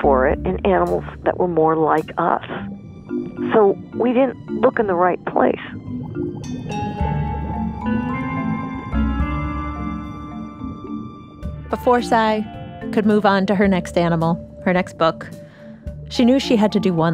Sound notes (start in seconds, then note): 4.3 bubbles rush past alongside the music